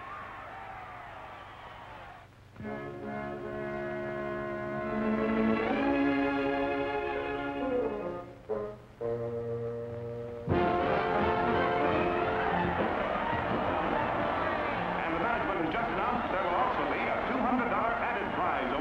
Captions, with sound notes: (slow music) (lively music) (crowd cheering) And the management has just announced that there will also be a $200 added prize